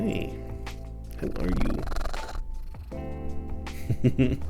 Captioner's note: glorious purrs